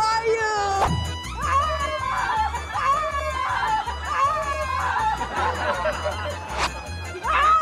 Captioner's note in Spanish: Grita